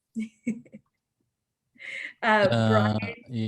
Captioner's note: chuckles